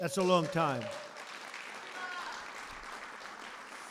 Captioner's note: applause